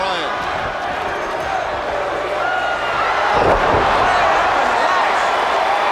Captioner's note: footsteps plodding; body thudding